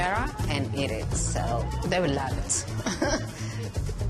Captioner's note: laughs